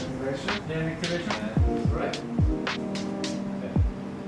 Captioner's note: group chatter